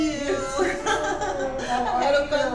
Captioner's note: laughs